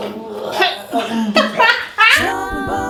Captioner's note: chokes and laughs